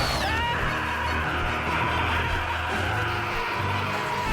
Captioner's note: man screams